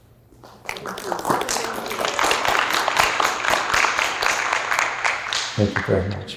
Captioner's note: applause